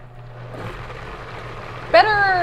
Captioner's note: blender whirring